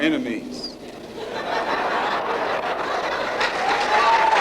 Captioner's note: audience laugh and applause